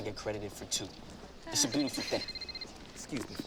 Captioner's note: phone rings